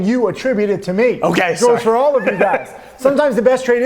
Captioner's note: laughs